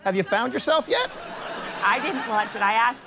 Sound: laughter

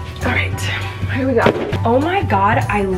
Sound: thudding

